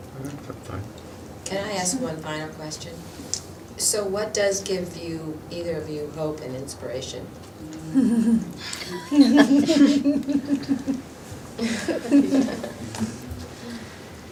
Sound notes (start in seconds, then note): 8.8 speakers and attendees laughing